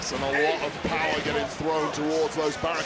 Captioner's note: audience cheering